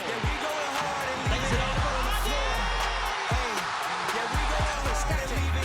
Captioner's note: crowd cheers and applauds; hip hop music